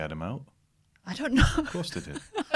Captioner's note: laughter